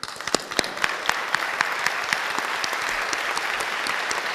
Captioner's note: audience applauding